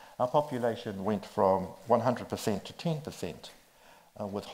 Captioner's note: none